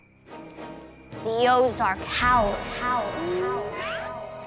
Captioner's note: echoing; suspenseful music